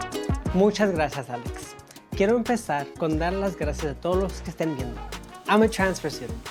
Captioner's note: upbeat Latin music; speaking in Spanish